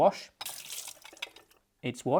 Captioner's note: water running